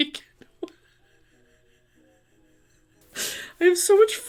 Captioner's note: laughs